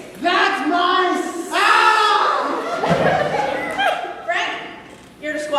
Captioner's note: buzzing